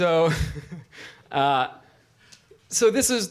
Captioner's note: laughs